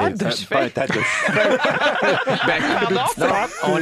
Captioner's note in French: rires